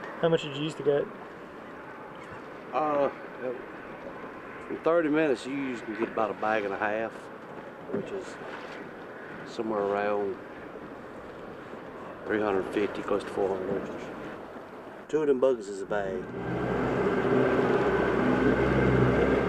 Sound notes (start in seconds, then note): 16.0 engine